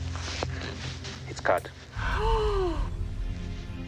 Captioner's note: woman gasps